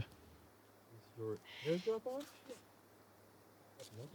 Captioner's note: quiet chatter